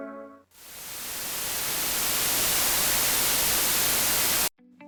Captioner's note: white noise image